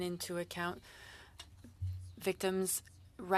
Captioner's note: speaking French